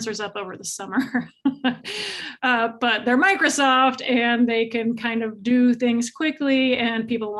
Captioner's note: chuckles